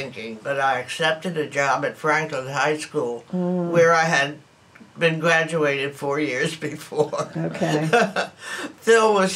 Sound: laughs

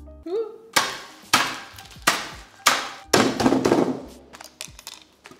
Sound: table thudding

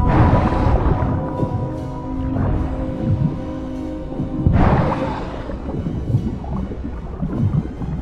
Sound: siren groans painfully and musically

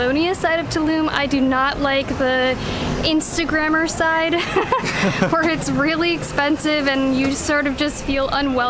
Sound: laughter

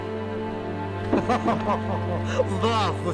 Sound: giggle Expression

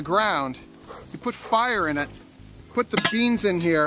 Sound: dog pants; iron put clanks

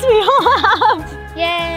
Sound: laughs

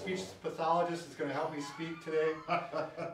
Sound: laughs

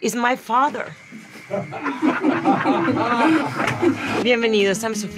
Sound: people quietly laughing

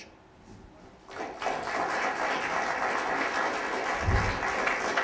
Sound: audience applause

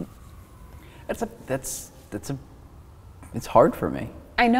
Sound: stammering

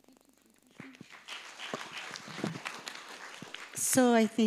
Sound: audience clapping

